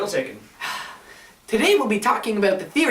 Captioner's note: sighs